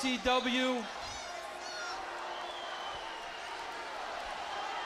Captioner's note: crowd chatter